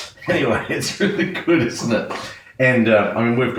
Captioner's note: laughs